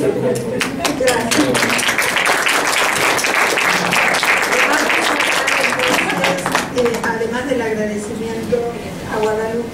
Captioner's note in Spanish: aplausos